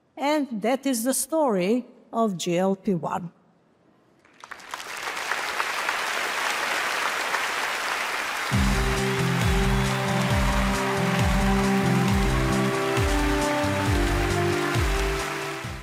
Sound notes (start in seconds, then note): 4.4 applause; 8.3 inspiring music